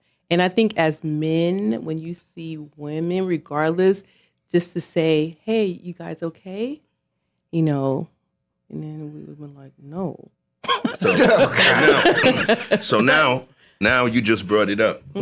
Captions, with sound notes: And I think as men, when you see women, regardless, just to say, hey, you guys okay? You know, and then we were like, no. (laughing) - So now, now you just brought it up.